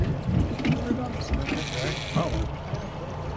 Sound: reel cranking; fish splashing

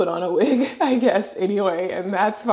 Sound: laughs

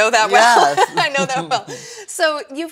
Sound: laughs

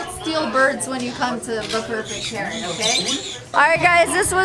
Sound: birds chirping

